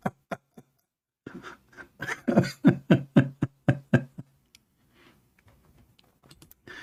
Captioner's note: Ketawa